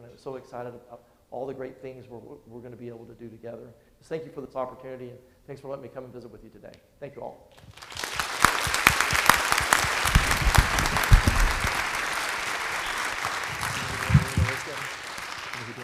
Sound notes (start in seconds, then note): 7.6 audience applauding